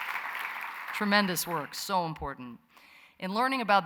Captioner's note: applause